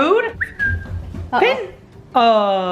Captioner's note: whistling